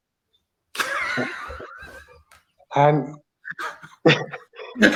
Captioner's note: laughter